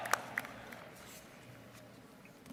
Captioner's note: applause